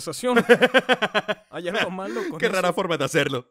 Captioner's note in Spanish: risas